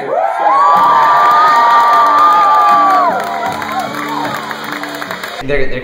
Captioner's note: cheers